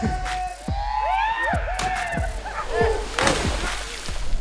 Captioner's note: screams